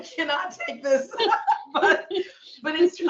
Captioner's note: laughing